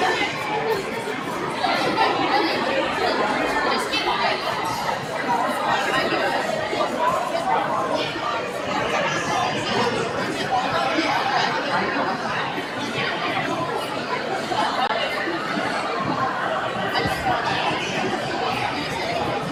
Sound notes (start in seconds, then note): 8.1 crowd chattering